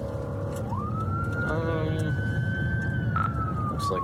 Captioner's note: siren wailing